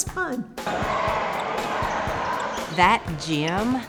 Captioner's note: students yelling